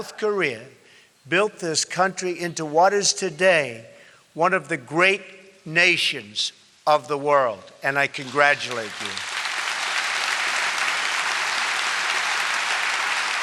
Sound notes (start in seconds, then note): 8.2 applause